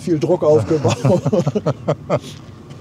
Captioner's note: laugh